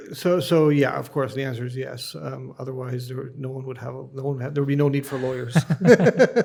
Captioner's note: both laugh